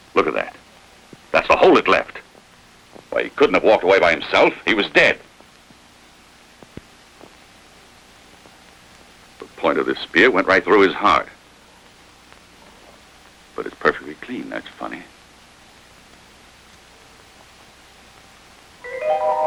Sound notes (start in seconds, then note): none